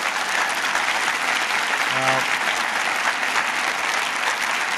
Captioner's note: applause